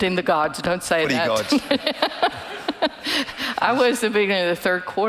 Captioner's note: laughing